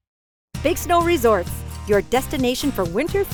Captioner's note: voiceover